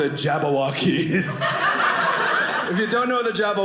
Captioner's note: audience laughing